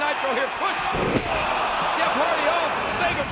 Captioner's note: audience groans